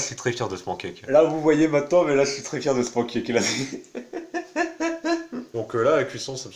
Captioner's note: laughs